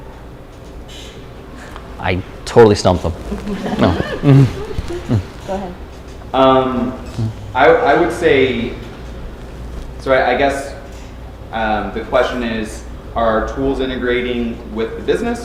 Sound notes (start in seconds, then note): 3.4 laughter